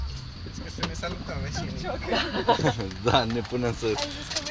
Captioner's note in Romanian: râsete